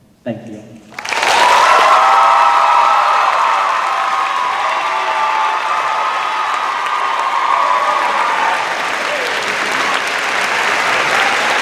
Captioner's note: cheers and applause